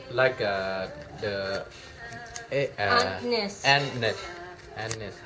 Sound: woman's Voice

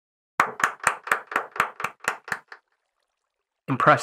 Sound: applauds

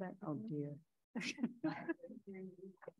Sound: laughs

